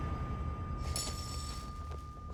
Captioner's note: metal clinks